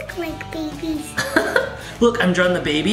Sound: laughs

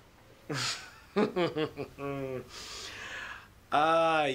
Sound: laughter

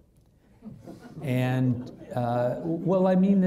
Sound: audience laughing

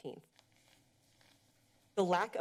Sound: pause

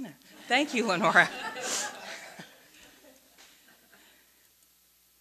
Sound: audience laughing

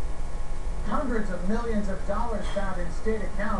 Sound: on TV

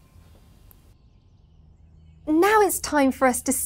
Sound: birds chirping

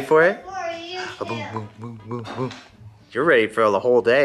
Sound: silly mouth noises

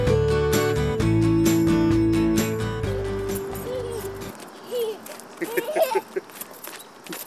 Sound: laughing

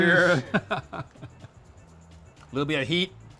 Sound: chuckling

